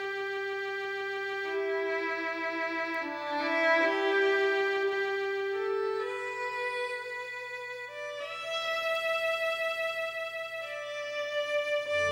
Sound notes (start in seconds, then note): none